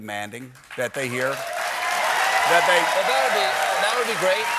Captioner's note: cheers and applause